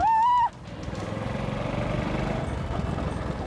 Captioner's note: screams